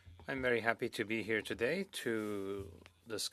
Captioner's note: speaking French